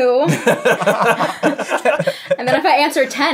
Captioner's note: laughter